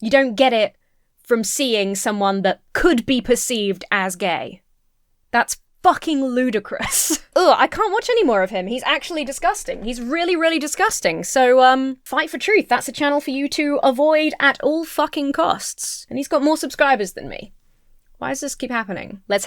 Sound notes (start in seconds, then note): 7.3 retches